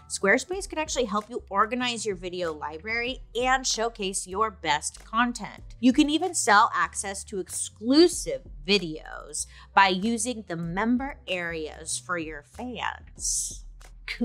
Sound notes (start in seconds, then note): none